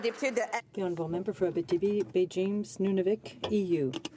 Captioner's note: some applause